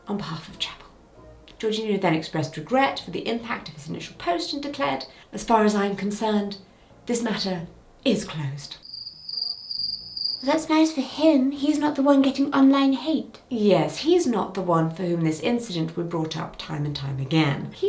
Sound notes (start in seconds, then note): 8.8 crickets chirping; 8.8 suspenseful music